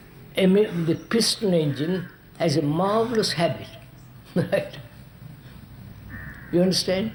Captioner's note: laughs